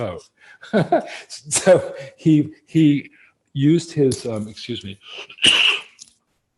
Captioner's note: laughs; coughs